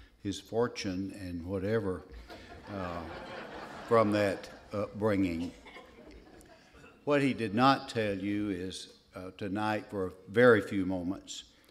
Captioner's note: laughter